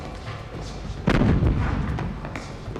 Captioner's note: cannons continue firing